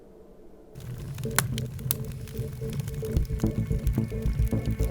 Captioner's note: fire crackling; tense music plays